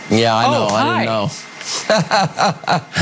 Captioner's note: laugh